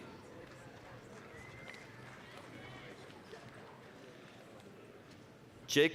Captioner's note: applause